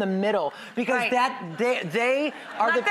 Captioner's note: audience laughter